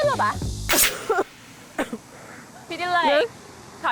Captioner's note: like coughing sound